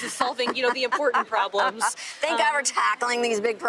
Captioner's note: laughs